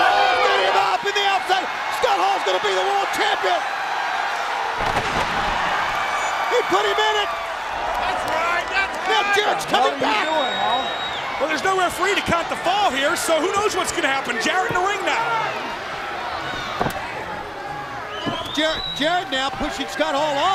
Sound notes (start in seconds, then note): 17.1 crowd chatter